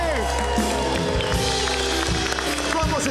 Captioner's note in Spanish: Silbidos